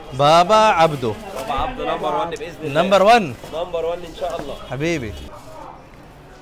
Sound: Arabic

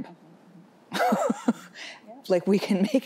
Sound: laughs

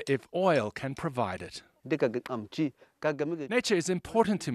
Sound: speaking foreign language

